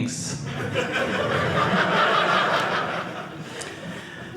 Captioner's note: audience laughing